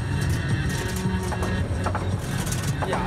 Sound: engine knocking

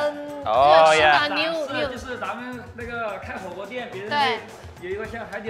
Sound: host speaks Mandarin; both speak Mandarin

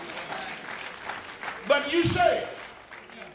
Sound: applause

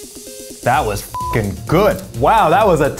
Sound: beep

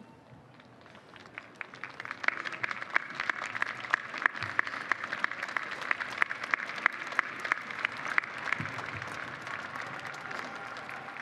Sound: applause

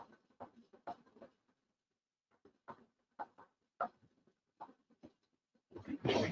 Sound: furniture shifting continues

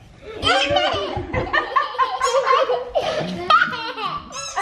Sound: kids laughing

